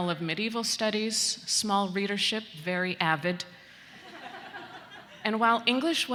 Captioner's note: students laughing